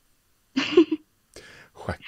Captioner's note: laughs